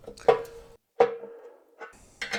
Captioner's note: tapping